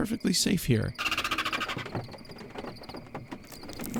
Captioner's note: spiders chattering